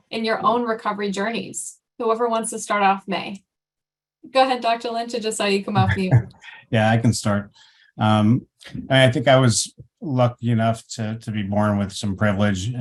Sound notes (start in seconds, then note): 5.8 chuckling